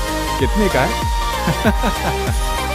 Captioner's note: laughs